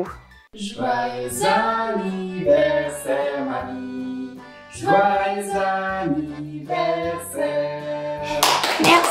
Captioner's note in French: Chant